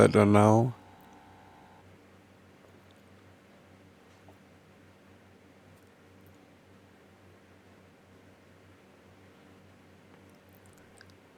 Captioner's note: silence